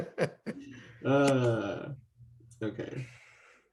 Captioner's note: laughing; groans